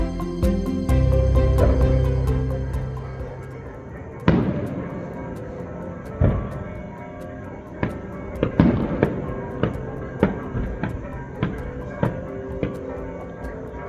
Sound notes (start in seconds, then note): 3.2 church bells and fireworks explosions